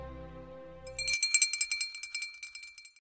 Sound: bell ringing

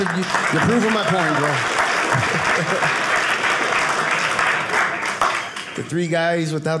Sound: audience clapping

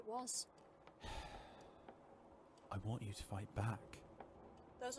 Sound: Sirius sighs

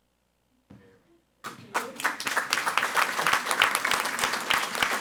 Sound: audience applauding

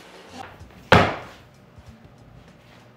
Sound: foot Stomping

